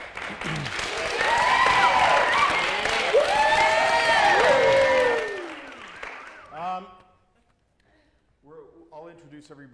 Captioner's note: applause and cheers